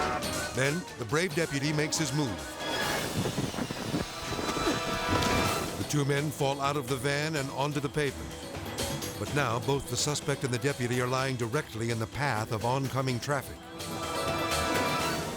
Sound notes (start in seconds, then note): 4.3 both groaning